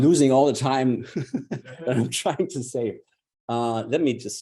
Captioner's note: audience members laugh